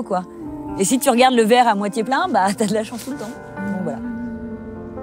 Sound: she laughs

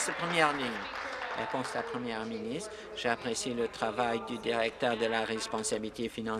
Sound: applause

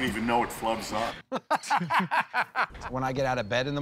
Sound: laughter

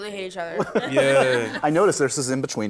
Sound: laughter

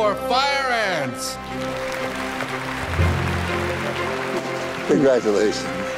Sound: audience applauding

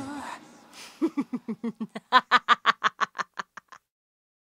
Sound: laughter

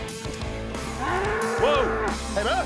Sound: bull mooing

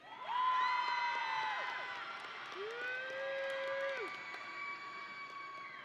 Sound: audience and graduates cheering

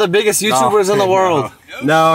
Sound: laughs

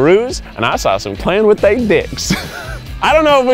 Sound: laughing

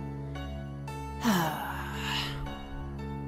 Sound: sigh

